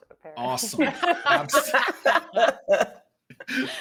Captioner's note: group laughing